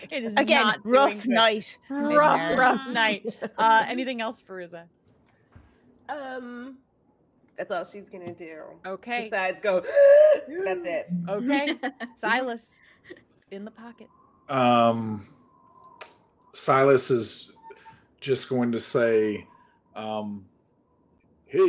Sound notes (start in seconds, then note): 0.0 laughing; 9.8 gasping; 14.9 Hope laughing